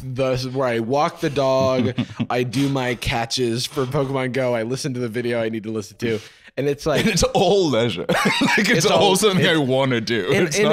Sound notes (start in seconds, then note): 8.0 laughs